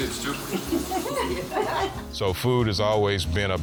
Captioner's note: laughing